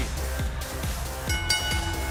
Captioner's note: bell ringing